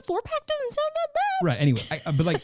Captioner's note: laughing